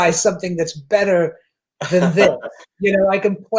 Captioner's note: laughs